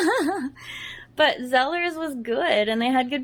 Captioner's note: laughs